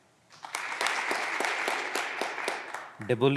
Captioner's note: clapping continues